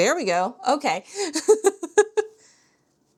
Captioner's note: laughs